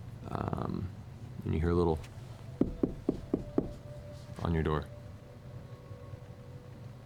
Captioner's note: knocking sound